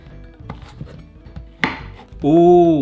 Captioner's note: bright instrumental music; knife zips; knife knocks